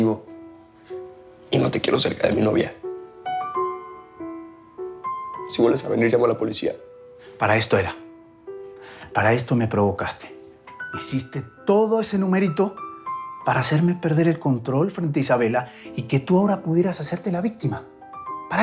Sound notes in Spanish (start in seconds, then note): none